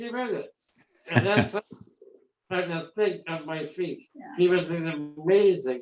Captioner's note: laugh